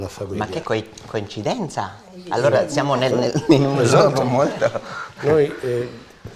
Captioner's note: chatter